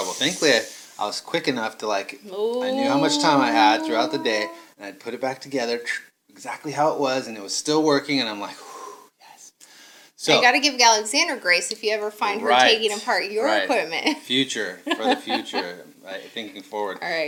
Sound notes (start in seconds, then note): 9.2 sighs